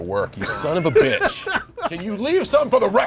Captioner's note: laughter